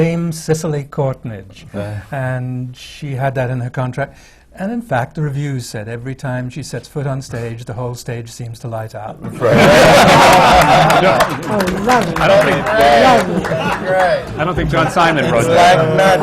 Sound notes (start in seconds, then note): 9.2 laughter; 9.5 applause